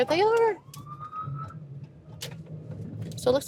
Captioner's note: siren stops